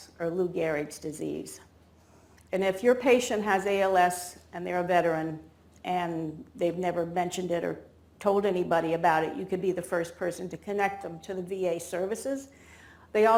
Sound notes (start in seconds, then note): none